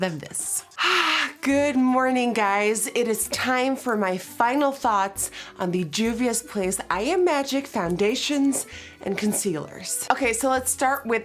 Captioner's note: happily sighs